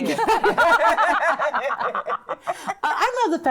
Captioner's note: laughing